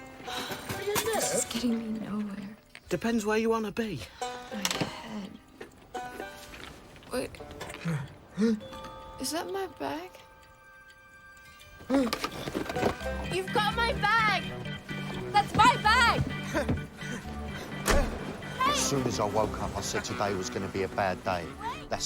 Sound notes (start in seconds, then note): 11.8 gasps; 16.6 panting